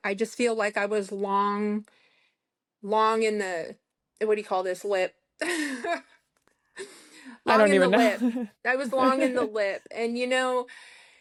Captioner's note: laughter